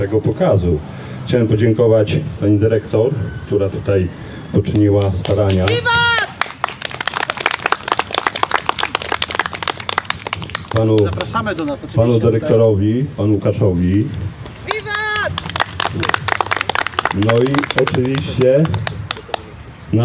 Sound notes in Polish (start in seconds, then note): 5.7 Powstańcy krzyczą wiwat!